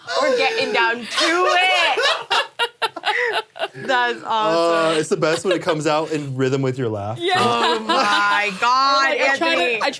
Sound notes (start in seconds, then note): 0.0 laughs; 1.0 people laughing